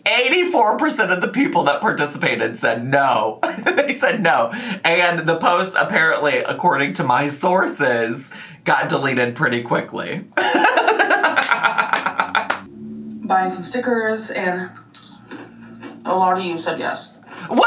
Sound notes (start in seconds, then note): 10.4 laughing